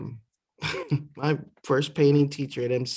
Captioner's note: laughter